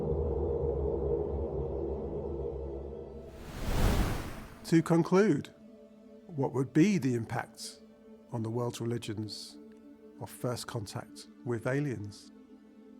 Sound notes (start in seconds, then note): 3.3 wind whooshing